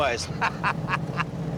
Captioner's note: laughs